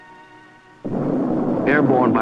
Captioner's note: rocket rumbling